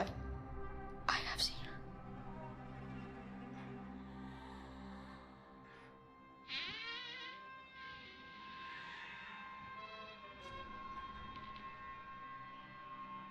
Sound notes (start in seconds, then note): 6.4 monster rasping softly; 6.4 door creaking; 9.9 gentle tense music